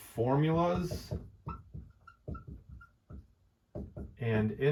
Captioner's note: marker squeaking